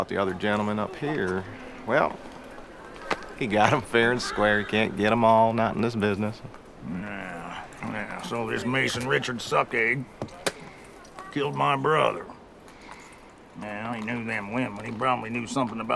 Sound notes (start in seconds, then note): 9.0 spits